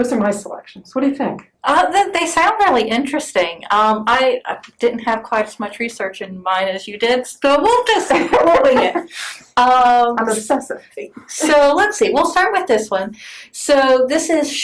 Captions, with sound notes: are my selections. What do you think? They sound really interesting. I didn't have quite as much research in mine as you did, so we'll just wing it! (laughs) So, let's see, we'll start with this one. So this is